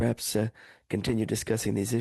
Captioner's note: speaking French